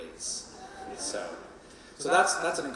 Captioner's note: audience laughing and cheering